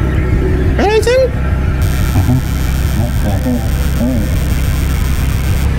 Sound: device crackles

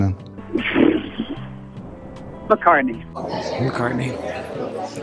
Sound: blows air out

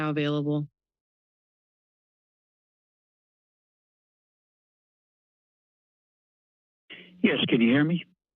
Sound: silence

